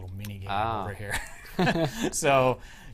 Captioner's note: laughter